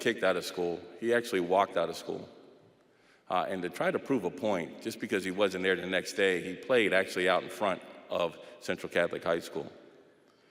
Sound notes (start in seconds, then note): none